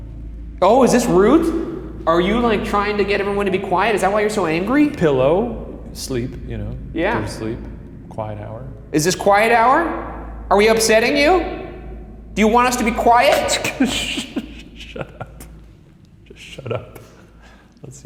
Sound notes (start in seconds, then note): 13.2 laughs